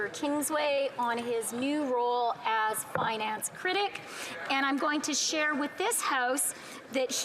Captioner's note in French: voix de l'interprète